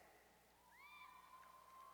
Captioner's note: cheers